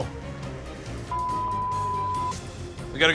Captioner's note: beep; tense music